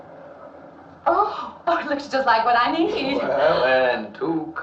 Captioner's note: yawns